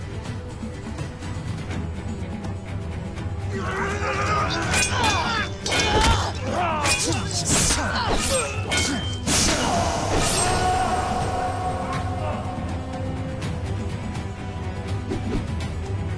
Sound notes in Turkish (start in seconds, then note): 3.5 Çarpışma sesleri